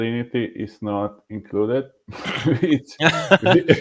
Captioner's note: laughing